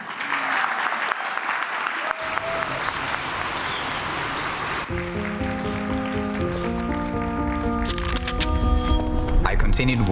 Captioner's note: applause